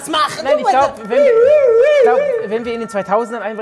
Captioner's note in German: Polizeisirene